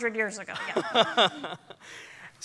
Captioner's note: laughter